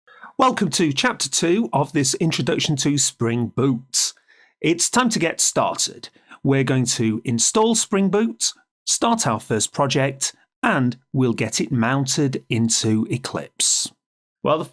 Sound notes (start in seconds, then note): 0.4 voiceover